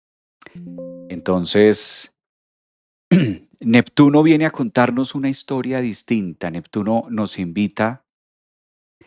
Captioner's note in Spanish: carraspeo